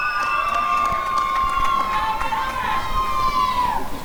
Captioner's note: applause and cheering